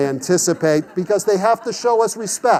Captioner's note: class laughs